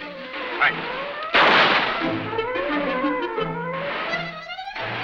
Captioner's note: gun firing